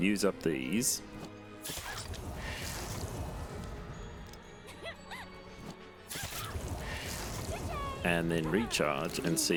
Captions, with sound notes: use up these, [NPC getting pummelled back to Developer Hell noises] and then recharge,